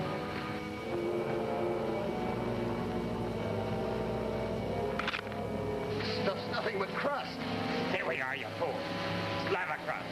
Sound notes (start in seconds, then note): 5.2 ground cracks